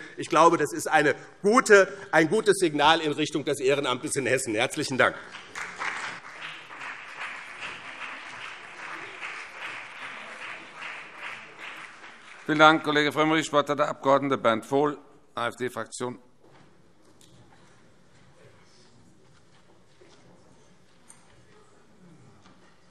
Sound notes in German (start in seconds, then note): 4.8 Beifall BÜNDNIS 90/DIE GRÜNEN und CDU